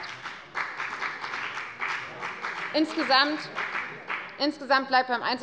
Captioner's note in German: Beifall bei der FDP